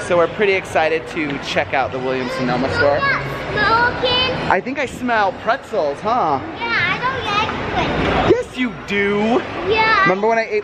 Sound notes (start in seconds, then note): 3.3 baby talk